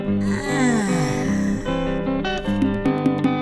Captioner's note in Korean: 하품